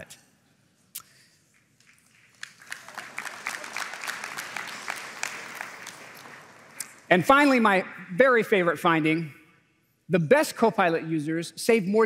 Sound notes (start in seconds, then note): 1.8 applause